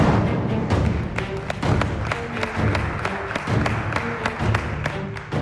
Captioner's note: applause